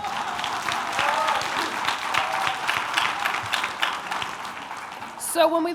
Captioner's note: audience cheering